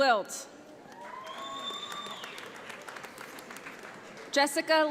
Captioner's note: audience applauds